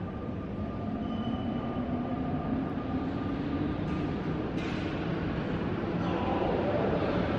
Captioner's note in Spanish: Sonido del metro moviéndose